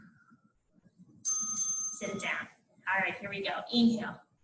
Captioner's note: ding ding